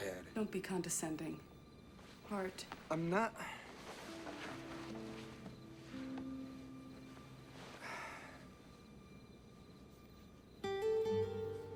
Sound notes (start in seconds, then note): 7.8 sighs